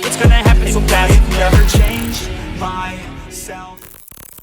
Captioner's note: crackles